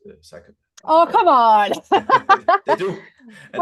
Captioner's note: laughs